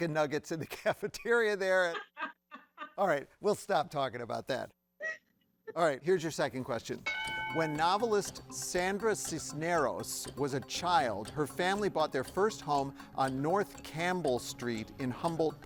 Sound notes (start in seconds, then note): 1.6 chuckles; 1.7 laughs